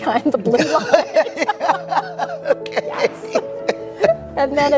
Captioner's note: they laugh